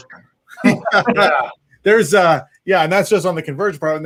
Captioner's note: laughter